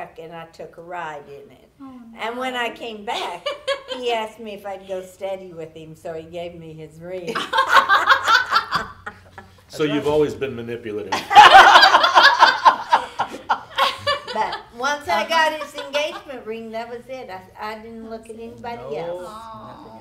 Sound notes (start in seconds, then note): 7.3 group laughing